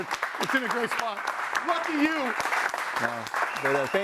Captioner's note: audience applauding